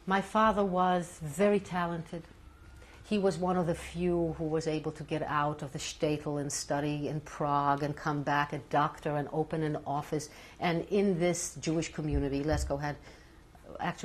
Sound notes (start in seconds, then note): none